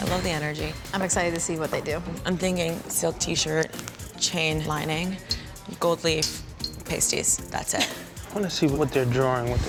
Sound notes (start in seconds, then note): 7.7 laughs